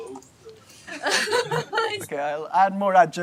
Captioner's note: laughs